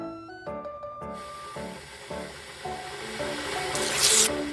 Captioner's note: boiling Sound